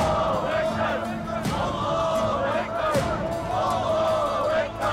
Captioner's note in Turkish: Hep bir ağızdan